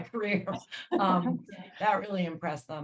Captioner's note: laughs